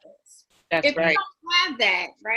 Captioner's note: woman's Voice